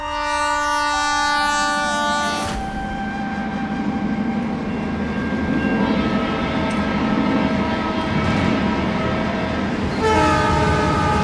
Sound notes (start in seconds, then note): 0.1 horn blaring; 5.3 train approaching